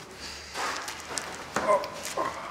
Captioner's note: groan